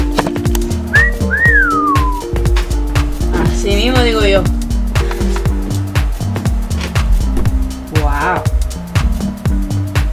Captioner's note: whistling appreciating